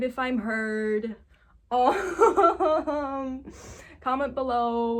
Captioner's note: laughs